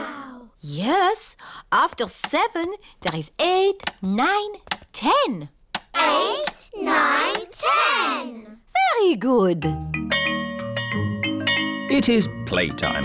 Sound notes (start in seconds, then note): 9.8 bell chimes